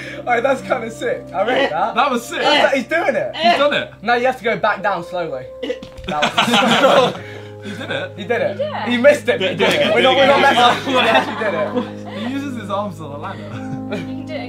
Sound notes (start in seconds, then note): 5.7 group laughing; 9.4 group chattering loudly